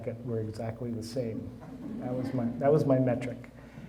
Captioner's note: audience chuckling